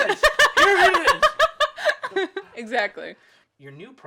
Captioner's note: laughing